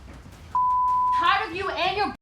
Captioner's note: beep